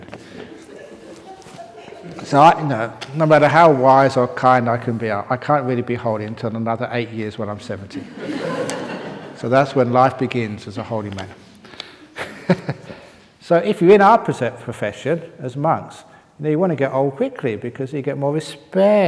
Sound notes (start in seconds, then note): 7.9 laughter